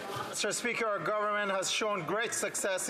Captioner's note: some Applause